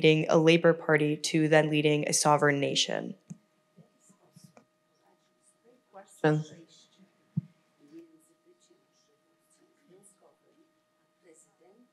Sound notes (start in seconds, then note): 5.1 foreign language